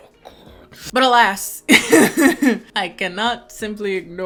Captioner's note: laughing